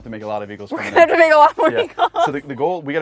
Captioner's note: laughs